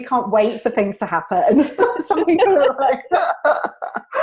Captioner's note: both laugh